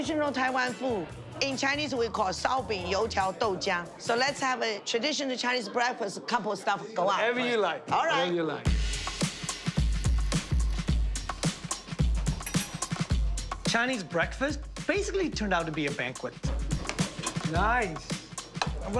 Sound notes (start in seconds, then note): 2.4 speaking Chinese language; 12.3 bell dings